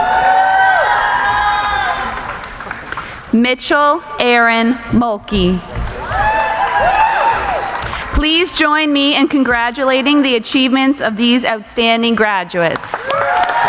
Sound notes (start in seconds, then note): 0.0 cheering; 7.4 cheering; 12.8 audience applauding; 12.9 cheering